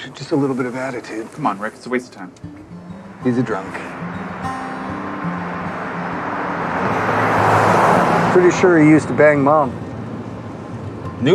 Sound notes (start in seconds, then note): 4.2 engine rumbling; 4.2 gentle music